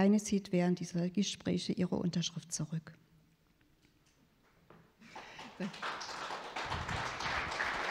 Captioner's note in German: Applaus